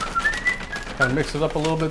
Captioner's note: whistles